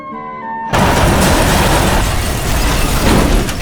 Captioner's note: crash